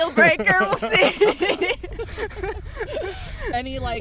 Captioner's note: all laughing